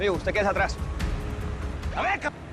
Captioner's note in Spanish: Sonido de sirena